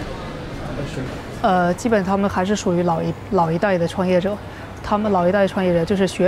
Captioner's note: speaking in Chinese